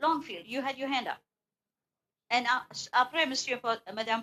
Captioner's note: speaking French